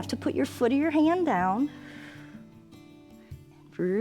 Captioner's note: exhales